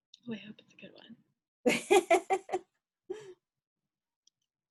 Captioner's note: laughs